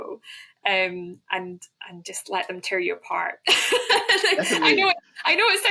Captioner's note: laughs